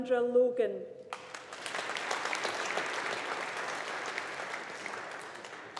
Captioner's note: audience applauding